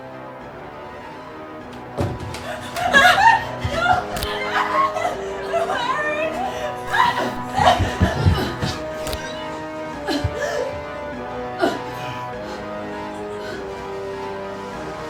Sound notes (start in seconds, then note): 8.9 crack; 12.0 pot smash